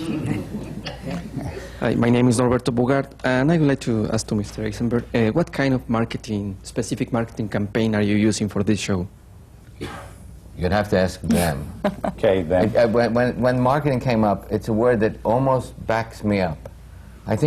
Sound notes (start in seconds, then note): 0.2 laughter; 11.3 laughs